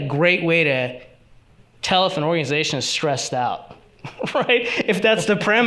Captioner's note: chuckles